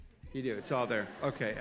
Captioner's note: audience laughing